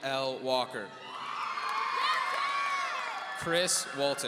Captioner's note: audience cheering